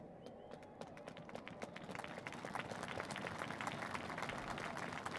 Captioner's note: applause